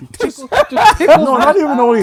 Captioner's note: laughing